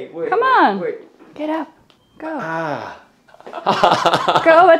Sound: groaning; laughing

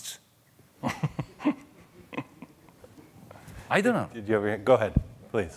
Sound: chuckling

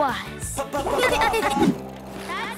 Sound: laughing

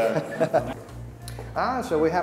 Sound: laughs

